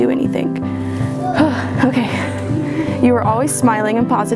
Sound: exhales

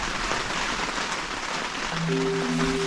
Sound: rain on tarp

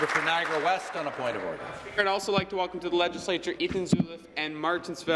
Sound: applause

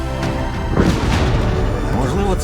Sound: thunder crashes

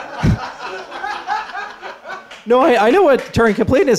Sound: laughter

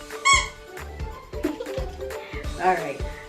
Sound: squeaking; laughing

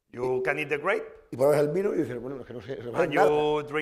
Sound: speaking spanish

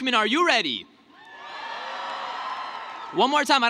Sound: cheering

